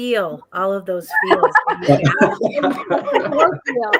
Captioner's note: laughter